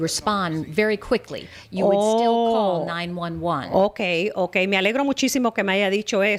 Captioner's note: Hablando ingl\s